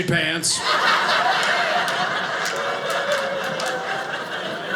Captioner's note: audience laughing